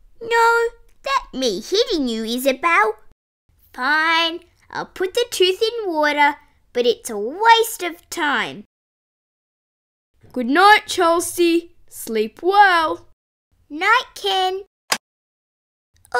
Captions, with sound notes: No that me hitting you Isabelle! Fine! I'll put the tooth in water, but it's a waste of time! Goodnight Chelsea Sleep well! Night Ken! (Click!)